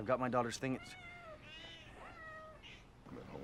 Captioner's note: cats meowing